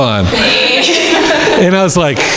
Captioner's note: crowd laughing